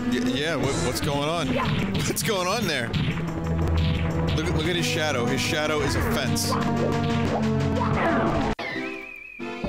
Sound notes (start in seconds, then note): 1.7 laughs